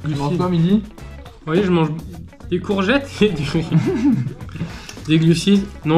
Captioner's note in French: rires